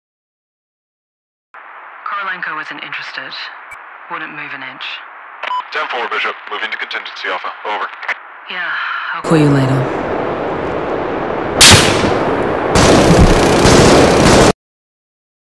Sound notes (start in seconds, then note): 11.4 gun fire erupts; 11.6 sniper shot